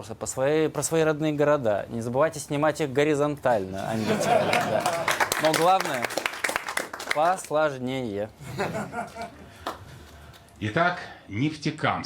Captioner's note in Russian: аплодисменты